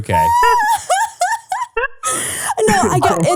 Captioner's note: laughing